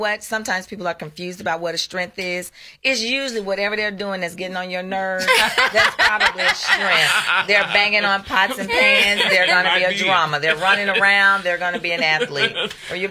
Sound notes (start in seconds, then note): 5.6 laughs